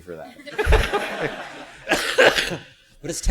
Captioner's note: laughter